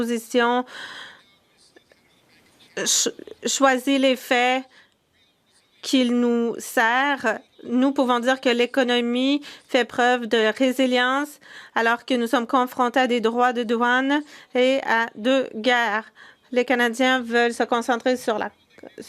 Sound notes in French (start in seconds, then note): 2.5 voix de l'interprète